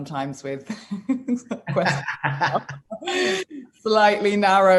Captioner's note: both laugh